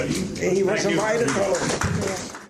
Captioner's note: applause